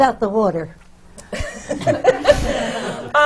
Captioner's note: laughs